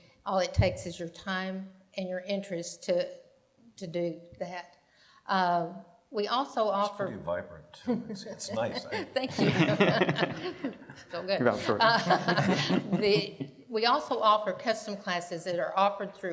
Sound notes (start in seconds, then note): 11.8 all laugh